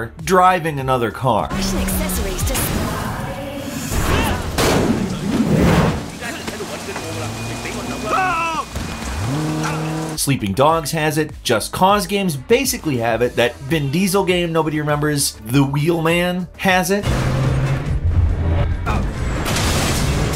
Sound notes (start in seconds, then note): 2.5 car engine roars; 8.0 character screams; 8.0 character babbles; 9.8 car engine roars; 17.3 car engine roars